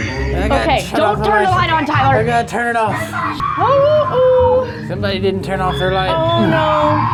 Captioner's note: screaming